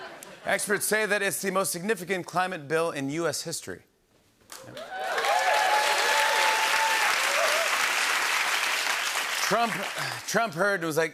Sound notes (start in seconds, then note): 4.6 cheers and applause